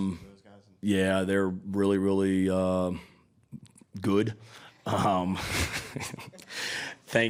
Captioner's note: laughing